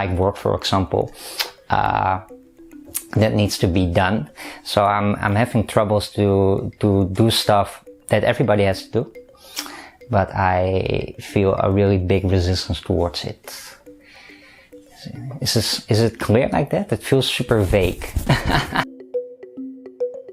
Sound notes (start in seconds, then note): 18.2 laughter; 18.9 upbeat Music